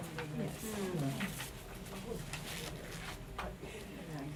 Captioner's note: audience murmuring